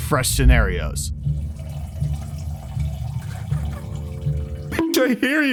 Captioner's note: pee trickling